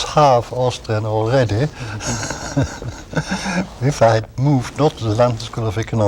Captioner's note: laughter